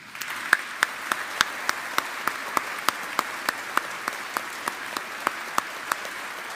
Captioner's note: audience applauding